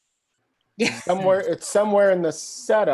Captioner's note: laughs